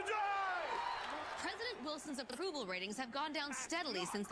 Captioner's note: crowd cheers